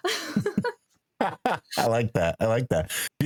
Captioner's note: laughing